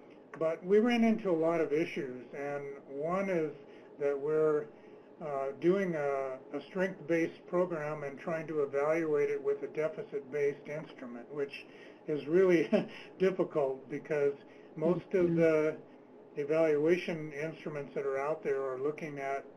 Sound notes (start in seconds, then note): 12.6 laughs